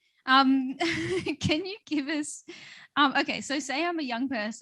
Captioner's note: laughs